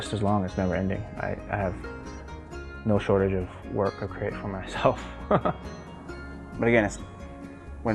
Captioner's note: laughs